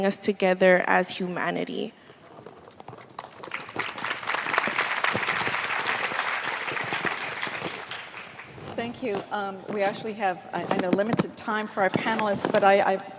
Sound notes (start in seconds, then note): 8.0 applause